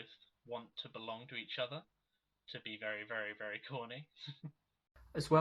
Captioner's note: laughs